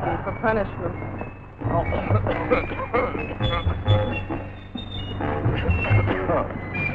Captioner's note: General Tostada coughing